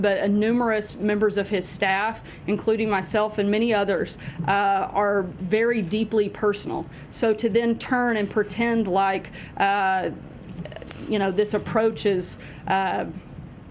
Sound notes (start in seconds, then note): none